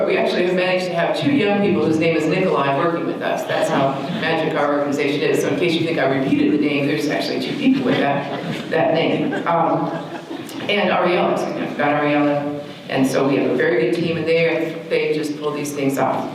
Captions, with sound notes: We actually, we've managed to have two young people whose name is Nikolai working with us. That's how magical our organization is, so in case you think I repeated the name, it's actually two people with that name. [audience laughter] And Arielus, Gabriela and so we have a very big team. And they just pull these things off.